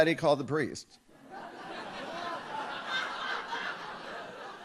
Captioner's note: audience laughs